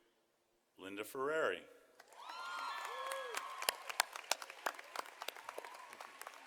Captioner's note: audience applauding